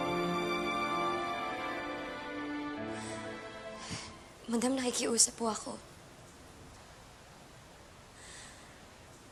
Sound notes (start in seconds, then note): 3.7 sighs heavily